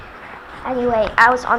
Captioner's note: laughing